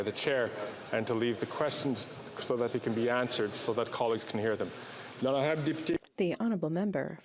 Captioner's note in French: voix de l'interprète